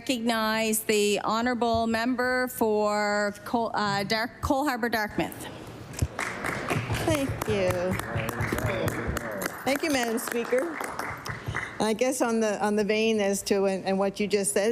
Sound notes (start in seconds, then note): 11.1 applause